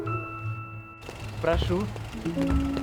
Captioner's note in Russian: шум машины